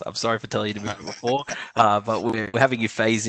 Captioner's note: laughs